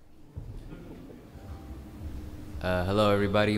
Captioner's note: audience laughs